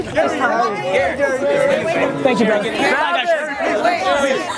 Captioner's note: crowd calling out